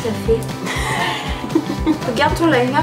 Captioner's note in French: rires